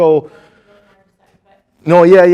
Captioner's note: student murmuring